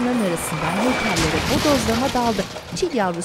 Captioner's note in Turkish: Kaza sesi